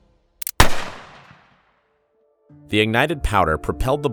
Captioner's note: gun firing